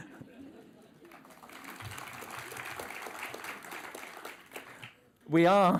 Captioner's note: applause